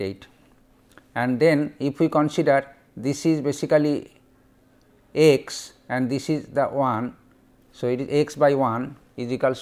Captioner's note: fuzzy